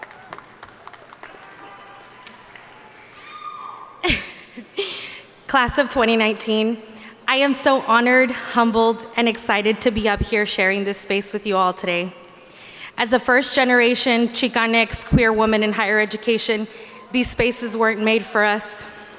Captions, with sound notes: (audience applauding) - (laughs) Class of 2019, I am so honored, humbled, and excited to be up here sharing this space with you all. As a first generation, Chicanx Queer woman in higher education, these spaces weren't made for us.